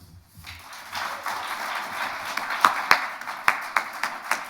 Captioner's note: audience applauding